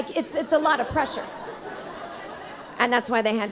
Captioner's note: audience laughing